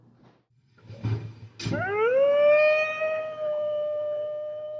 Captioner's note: wolf howling